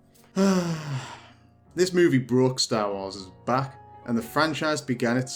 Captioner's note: sigh